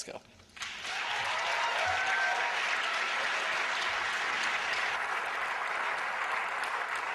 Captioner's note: applause